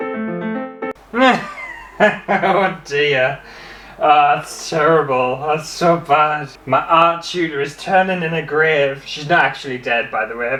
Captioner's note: classical Music; laughter